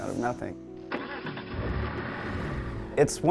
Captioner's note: car starting